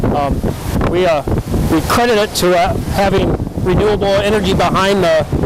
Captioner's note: wind blowing